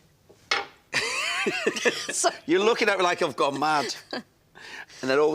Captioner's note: laughs